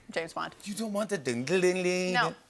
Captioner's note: vocalizes " " theme